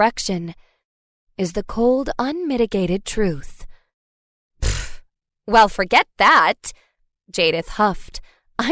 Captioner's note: pfft